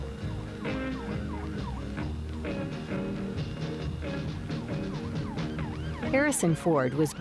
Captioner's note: sirens blaring